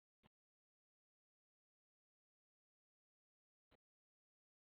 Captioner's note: lost audio